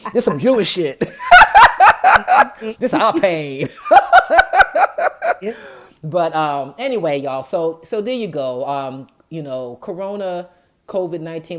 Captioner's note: laughs